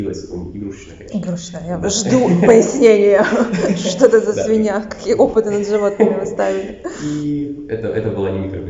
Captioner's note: laughing